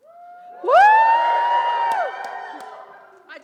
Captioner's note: audience cheers